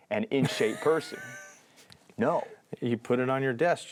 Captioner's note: laughs